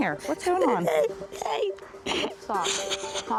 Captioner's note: crying